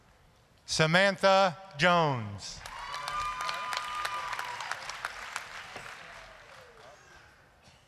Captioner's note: applause, cheering